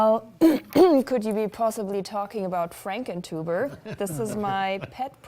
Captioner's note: laughter